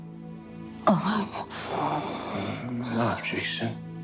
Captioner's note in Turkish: Zor nefes alıyor